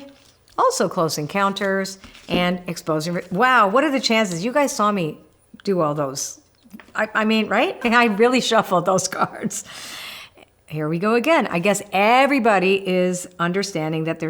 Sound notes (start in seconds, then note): 10.0 laughs